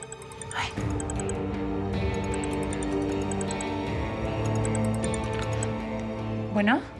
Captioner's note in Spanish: suena el celular